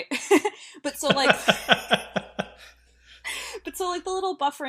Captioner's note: laugh